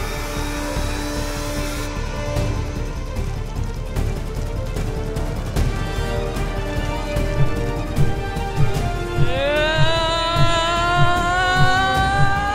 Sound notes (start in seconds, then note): 3.6 suspenseful music; 8.9 yelling